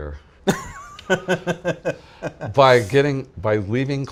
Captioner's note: laughing